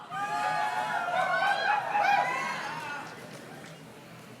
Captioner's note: graduates cheer